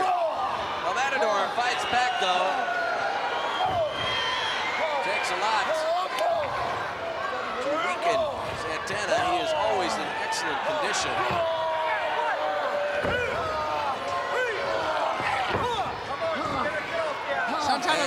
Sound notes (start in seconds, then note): 0.2 blows thudding; 3.2 wrestlers grunting; 12.8 body thudding